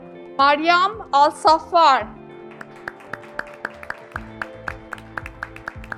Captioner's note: graduates clapping